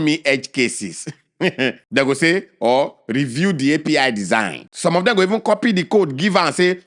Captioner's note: laughs